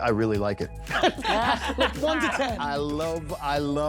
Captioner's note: laughing